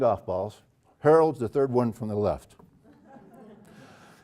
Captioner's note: laugh